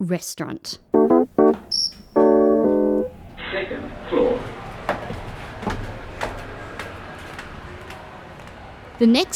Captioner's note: computer voice: second floor